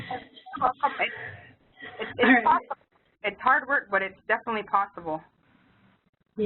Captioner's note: poor signal